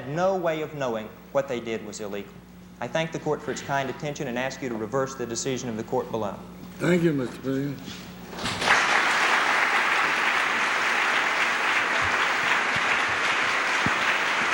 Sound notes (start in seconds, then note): 8.4 applause